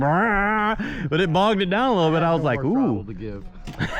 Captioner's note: laughing